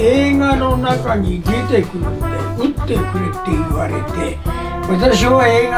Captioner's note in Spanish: Sigue su explicacion en japones